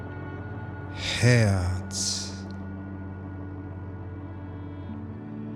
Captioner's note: german